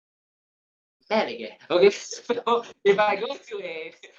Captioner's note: in Cantonese